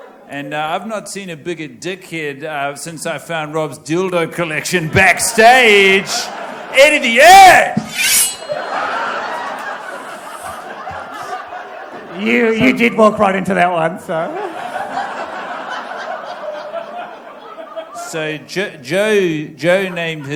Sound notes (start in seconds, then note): 7.8 knife slicing sound